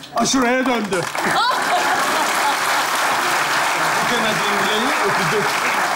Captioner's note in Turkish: Alkış sesleri